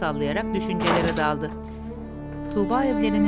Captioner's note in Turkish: Kapı kapanma sesi